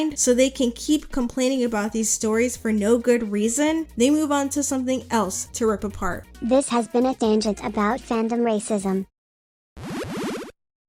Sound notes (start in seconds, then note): 6.3 robot voice; 9.8 Castlevania game sound effect 5